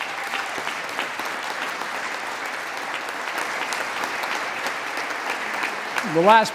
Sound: applause

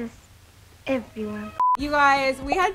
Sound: short beep

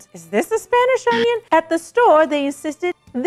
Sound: buzzer sounds

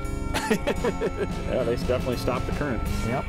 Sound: laughter

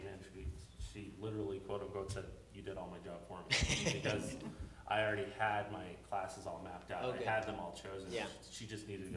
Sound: laughter

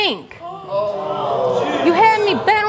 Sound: audience groans

